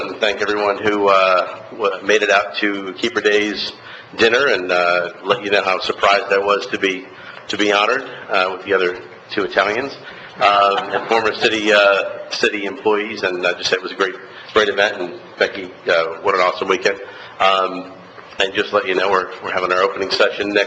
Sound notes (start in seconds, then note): 10.5 laughter